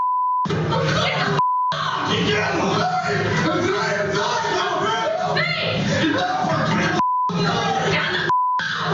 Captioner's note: screaming and shouting